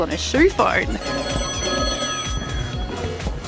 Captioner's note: ringing